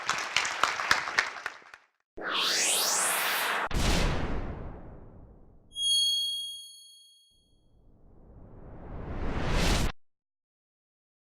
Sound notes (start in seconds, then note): 0.0 audience applauding; 2.2 logo swooshing; 5.8 gentle chiming